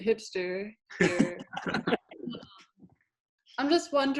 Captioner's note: all laughing